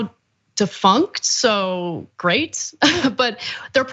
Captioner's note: laugh